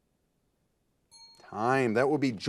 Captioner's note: timer beeping